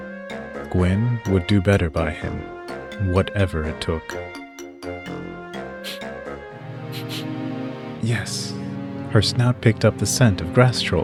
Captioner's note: sniff. Sniff sniff